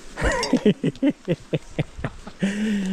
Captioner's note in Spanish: risas